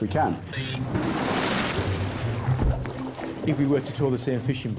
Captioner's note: water splashing